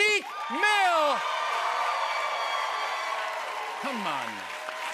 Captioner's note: cheers and applause